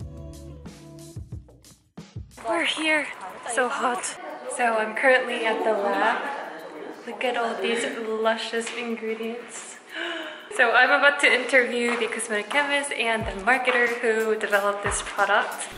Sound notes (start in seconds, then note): 9.8 gasps